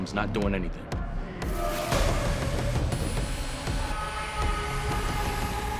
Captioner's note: muffled screaming